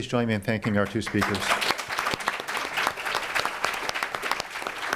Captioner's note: applause